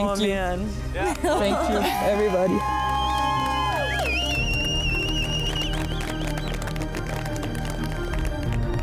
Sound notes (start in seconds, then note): 1.3 cheering and clapping